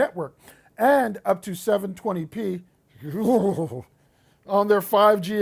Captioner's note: shuddering